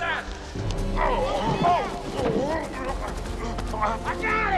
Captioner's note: Eli groaning